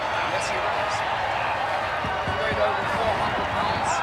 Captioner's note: crowd cheering